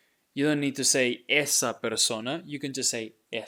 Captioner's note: speaking in Spanish